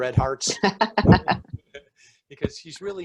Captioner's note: laughing